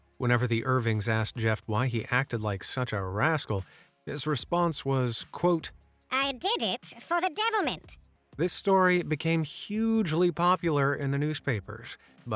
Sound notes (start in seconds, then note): 6.0 in old-timey English accent